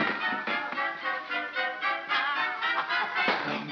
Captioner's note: house clatters over; pig yelps